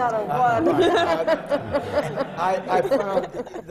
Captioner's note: laughter